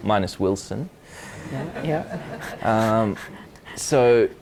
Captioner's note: audience laughs